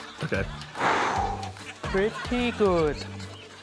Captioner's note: exhales